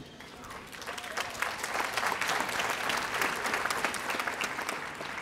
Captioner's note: audience applauding